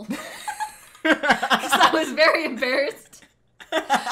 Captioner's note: laughter; laughs; cracking up